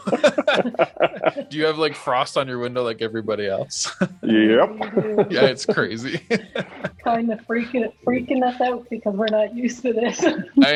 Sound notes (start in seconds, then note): 6.9 laughs